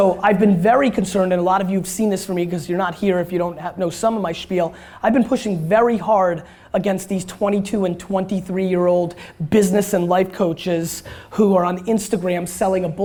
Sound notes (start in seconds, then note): none